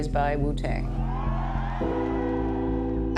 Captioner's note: audience cheering